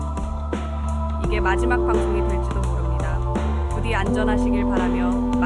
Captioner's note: speaking korean